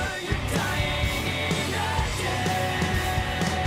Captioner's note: crowd cheering